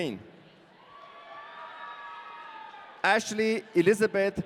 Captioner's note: audience cheering